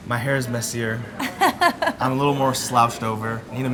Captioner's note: laughs